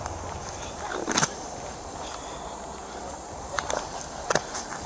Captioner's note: glove rips